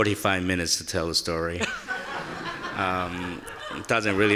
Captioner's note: audience laughing